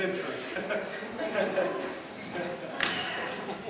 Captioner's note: nervously chuckles